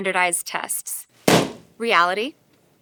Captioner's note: balloon pops